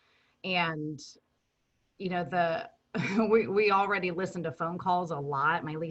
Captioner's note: chuckles